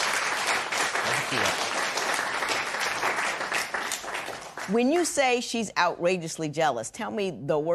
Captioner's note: applause